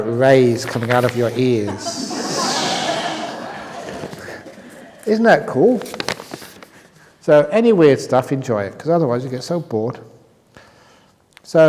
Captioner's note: laughter